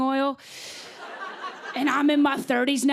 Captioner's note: laughter